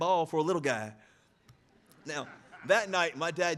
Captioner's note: audience laughing